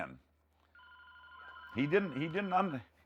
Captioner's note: phone ringing